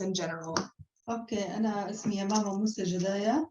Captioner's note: non-english speech